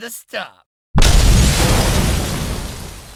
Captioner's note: french explosion